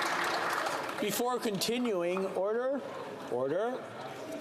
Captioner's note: some Applause